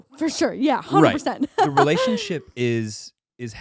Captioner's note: giggling